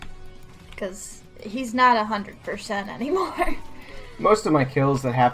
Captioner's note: laughs